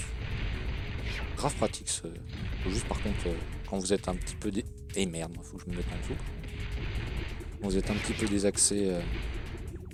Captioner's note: shooting